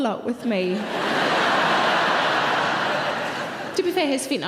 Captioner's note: audience laughing loudly